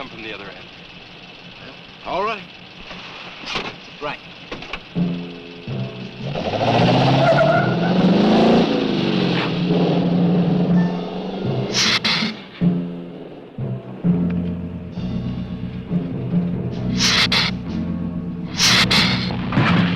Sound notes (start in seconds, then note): 5.4 dramatic music; 7.3 tires squealing; 11.6 lizard hissing; 16.9 lizard hissing